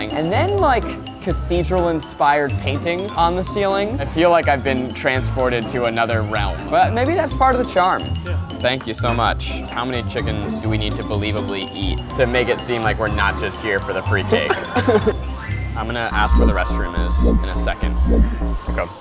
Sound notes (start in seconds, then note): 14.4 laughs